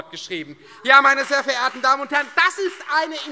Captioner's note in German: Beifall Freie Demokraten